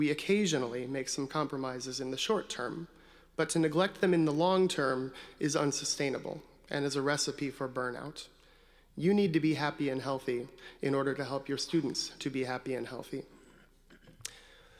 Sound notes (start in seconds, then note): none